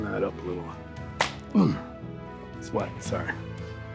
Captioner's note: hands slap